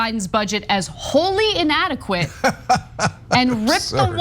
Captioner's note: laugh